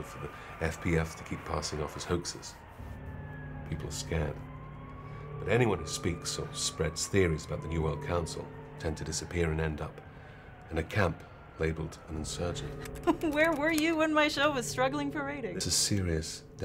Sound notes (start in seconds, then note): 8.1 siren on video